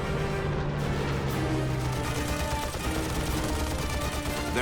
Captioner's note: gunfire